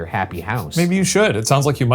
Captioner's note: chuckling